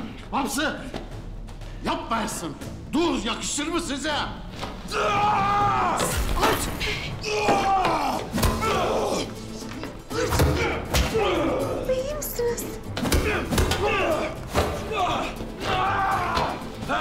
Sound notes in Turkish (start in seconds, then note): 4.9 Bağırma sesi; 7.5 Yumruk sesi; 10.0 Dövüş sesleri; 12.8 Dövüş sesleri; 13.1 Bağırma sesleri